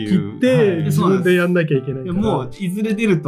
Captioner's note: laughs